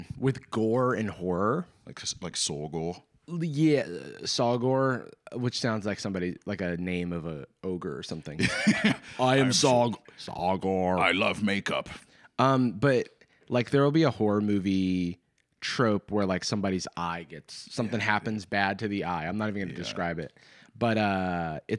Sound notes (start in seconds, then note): 9.3 deep voice